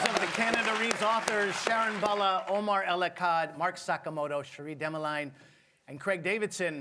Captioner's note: applause